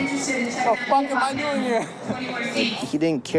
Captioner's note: laughs